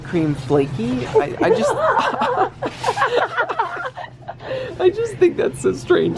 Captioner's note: both laugh